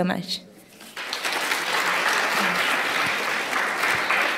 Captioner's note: applause